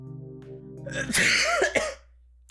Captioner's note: cough